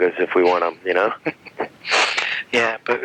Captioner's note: laughing